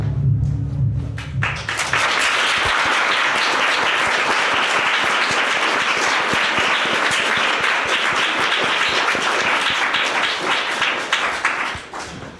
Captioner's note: applause